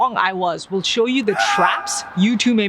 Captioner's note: screaming